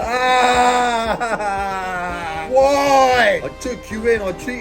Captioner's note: crying